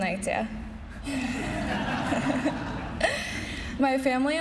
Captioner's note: laughing